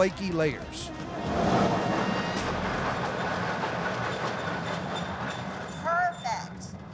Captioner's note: machine grinding sound